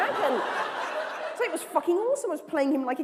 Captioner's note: laughter